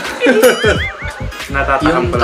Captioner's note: laughs